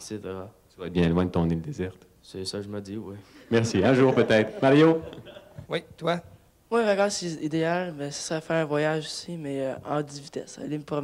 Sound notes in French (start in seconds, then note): 3.8 rires